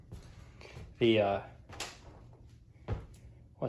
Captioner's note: foot tap